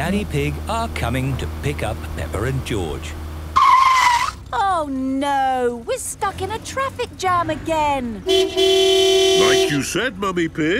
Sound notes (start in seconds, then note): 2.8 tires screeching; 8.2 honking